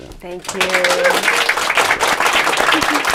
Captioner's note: applause